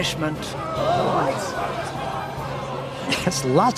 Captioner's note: crowd gasping